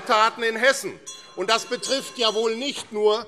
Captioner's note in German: Zurufe - Glockenzeichen